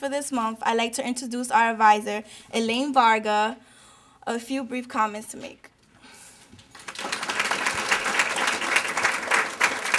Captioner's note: applause